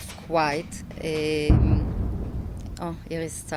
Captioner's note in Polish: Eksplozja w oddali